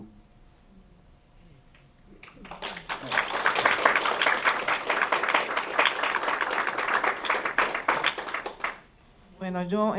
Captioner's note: aplausos